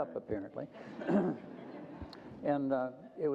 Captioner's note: group chuckles